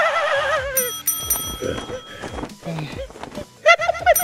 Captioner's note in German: jubelnd; Glockenschlags